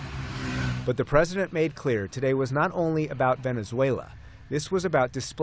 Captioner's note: voice-over